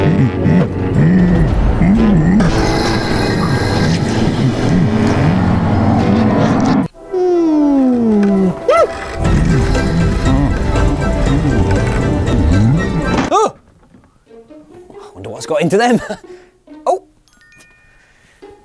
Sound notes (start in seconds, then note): 1.9 scraping hoarse breaths; 9.2 bin hand whimpers